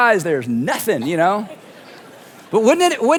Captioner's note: audience laughing